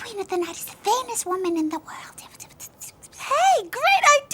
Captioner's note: whispers; laughs